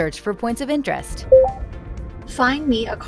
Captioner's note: vehicle beeping